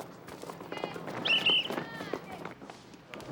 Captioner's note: whistles